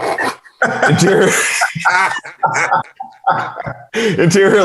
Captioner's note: everyone laughing